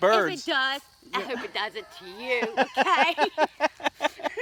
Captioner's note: laughter